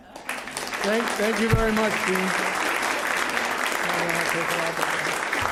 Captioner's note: applause